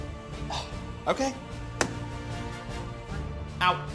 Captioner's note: scoffs